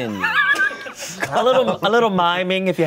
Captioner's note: laughs